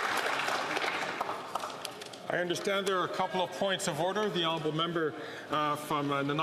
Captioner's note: applause